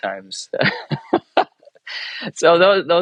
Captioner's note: laughs